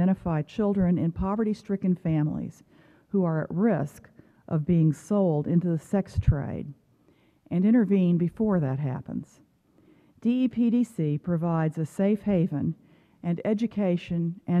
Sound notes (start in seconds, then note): none